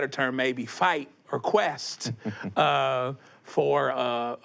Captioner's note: chuckles